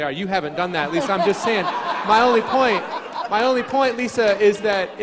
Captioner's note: crowd laughing